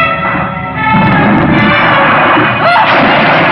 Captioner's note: banging